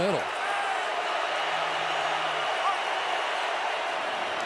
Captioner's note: crowd cheering